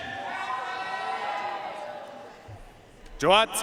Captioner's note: audience cheering and applauding